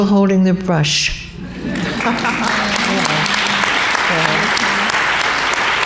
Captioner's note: laughter and applause